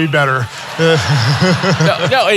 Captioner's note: audience laughing